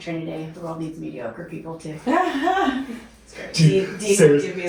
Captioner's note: laughs